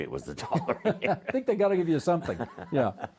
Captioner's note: both laughing